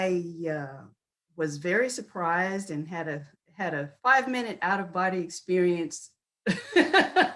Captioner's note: chuckles